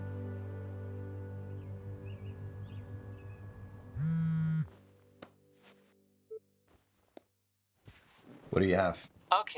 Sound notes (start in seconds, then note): 1.5 birds chirping; 3.9 phone buzzing